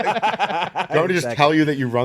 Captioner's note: laughing